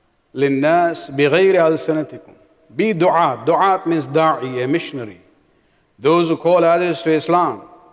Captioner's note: arabic